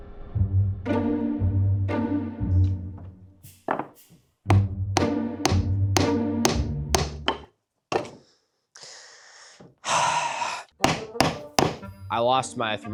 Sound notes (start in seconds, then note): 0.4 mischievous music; 4.5 hammering; 7.9 wood clattering; 9.8 sharp sigh; 10.8 hammering